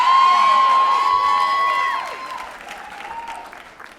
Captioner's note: cheering